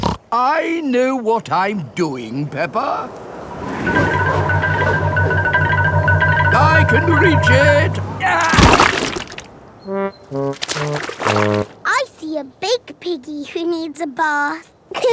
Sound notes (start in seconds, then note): 0.0 snorts; 8.5 groans